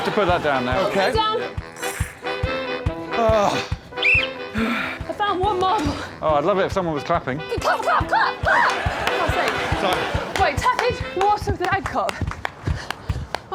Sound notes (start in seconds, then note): 3.1 moans; 3.9 blows whistle